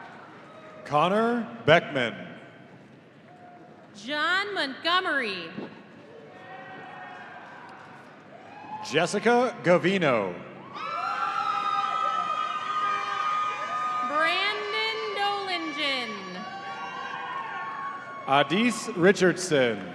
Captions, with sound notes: - Connor Beckman. - John Montgomery. - Jessica Gavino. (audience cheering) - Brandon Doellingen. - Adys Richardson.